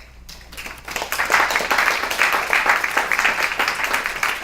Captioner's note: applause